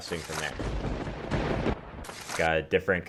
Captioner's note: lightning theme sound